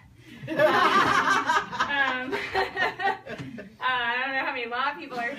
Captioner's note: people Laugh